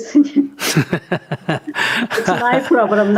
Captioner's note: laughter